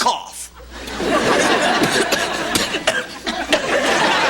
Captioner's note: dry, hacking cough